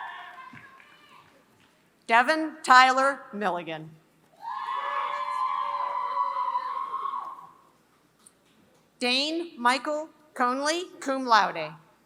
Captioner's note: applause